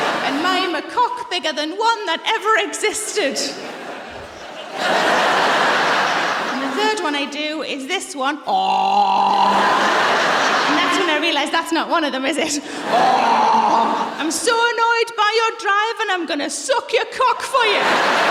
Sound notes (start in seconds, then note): 5.0 laughter; 9.3 laughter